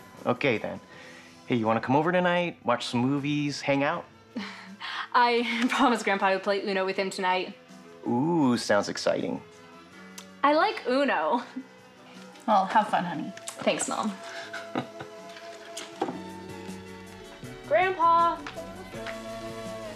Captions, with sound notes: - Okay, then. Hey, you wanna come over tonight? Watch some movies. Hang out? - I promised grandpa I would play Uno with him tonight. - Ooh, sounds exciting. - I like Uno. - Well, have fun, honey. - Thanks, mom. (Larry chuckles) - Grandpa!